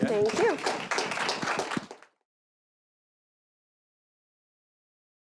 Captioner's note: applause